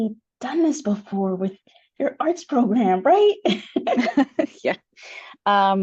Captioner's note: laughs